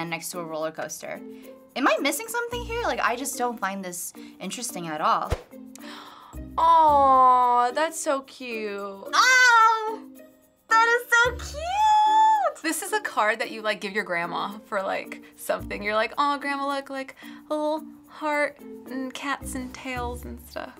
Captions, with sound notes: next to a roller coaster. Am I missing something here? Like, I just don't find this interesting at all. - (gasps) Awww, that's so cute. - Ohhh! That is so cute! - This is a card that you give your grandma for something. You're like, "Aw, Grandma, look. Like, the little heart and cats and tails and stuff."